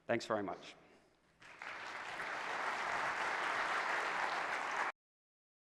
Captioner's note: audience applause